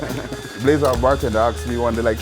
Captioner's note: laughs